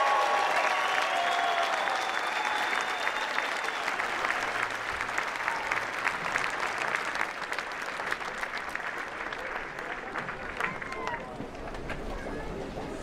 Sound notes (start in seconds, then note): 0.2 cheering; 4.2 applause